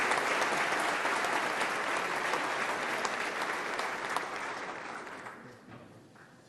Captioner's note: applause